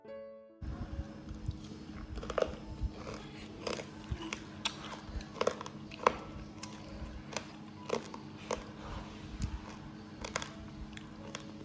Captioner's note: crispy sound